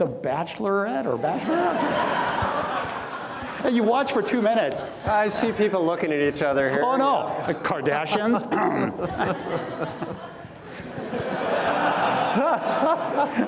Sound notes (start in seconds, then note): 1.2 audience laughs; 8.5 clears throat; 10.4 audience laughs